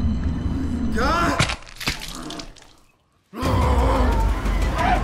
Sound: milk splashes; zombies growl

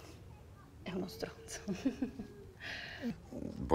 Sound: laughs with embarrassment

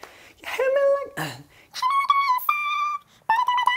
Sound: clears throat

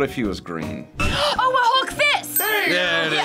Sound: gasps

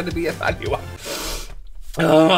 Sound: breathed Out Too Much

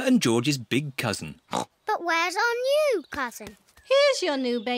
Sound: oinks

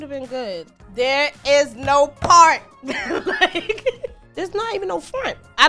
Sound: laughs

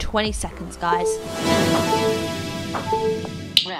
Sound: machine beeping

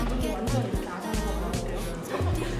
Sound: nom nom

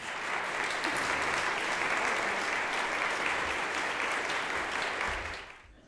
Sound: applause

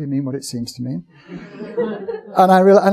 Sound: audience chuckling

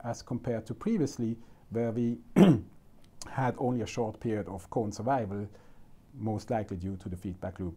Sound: clears throat

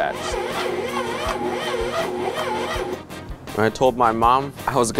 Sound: mixer whirring

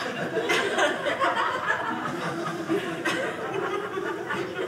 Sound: audience laughing

